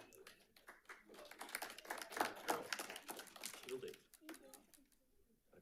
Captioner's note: members applauding